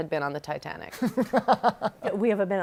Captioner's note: laughs